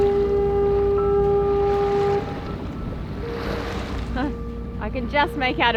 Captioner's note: ship horn in the distance